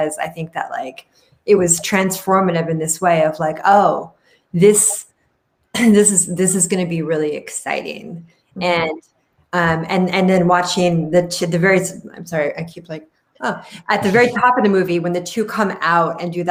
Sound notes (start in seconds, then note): 14.0 laughs